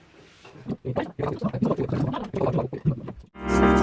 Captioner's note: chatting